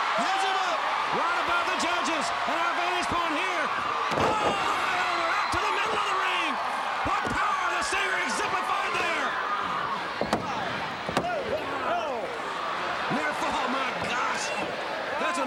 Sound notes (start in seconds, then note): 4.0 Ric thudding on ring; 10.1 countdown thudding